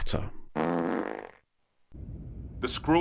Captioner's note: fart noise